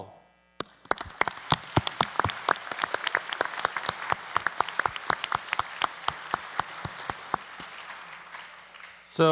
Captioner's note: applause